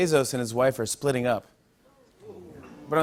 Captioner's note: audience groans